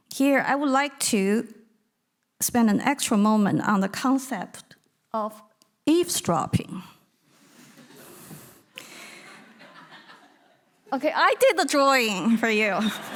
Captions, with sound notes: Here, I would like to spend an extra moment on the concept of eavesdropping. (audience laughing) Okay, I did the drawing for you.